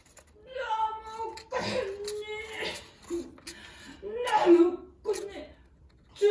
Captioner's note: cough